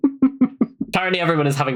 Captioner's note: laughs